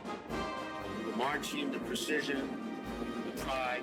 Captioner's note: Stone speaking